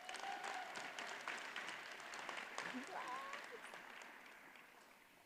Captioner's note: audience cheers and applauds